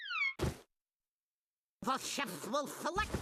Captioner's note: wig thudding